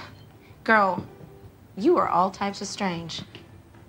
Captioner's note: sighs